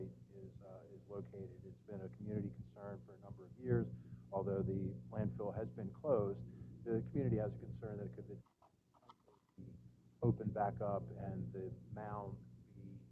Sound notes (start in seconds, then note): none